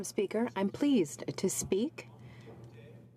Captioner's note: speaking in french